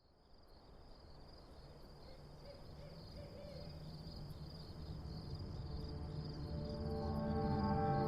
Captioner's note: crickets chirping, owls hooting